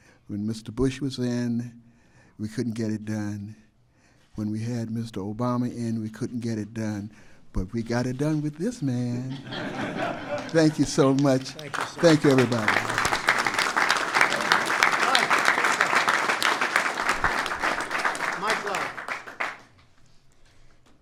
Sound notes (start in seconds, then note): 9.2 laughter; 12.8 applause